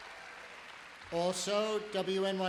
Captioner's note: applause